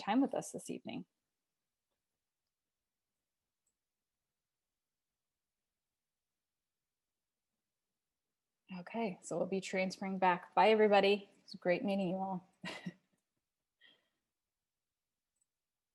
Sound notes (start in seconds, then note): 12.6 laughs